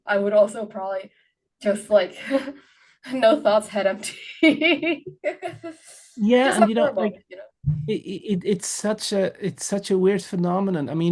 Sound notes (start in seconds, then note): 6.3 laughs